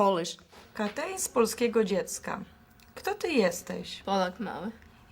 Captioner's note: speaking in Polish